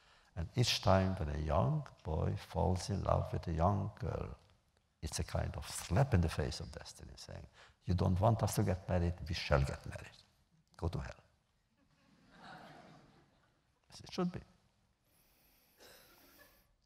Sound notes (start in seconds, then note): 11.8 laughter